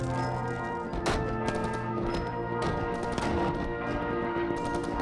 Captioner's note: sounds of machine guns fire and explosions fade away